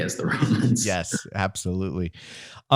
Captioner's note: chuckling